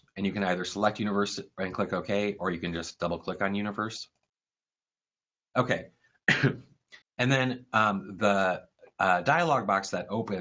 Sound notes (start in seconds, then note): 6.2 cough